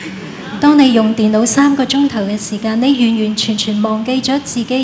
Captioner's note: laughter